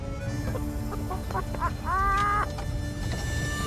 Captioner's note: laughter